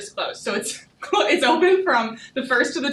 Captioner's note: laughing